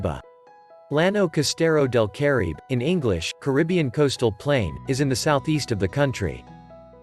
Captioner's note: in English, "Caribbean Coastal Plain"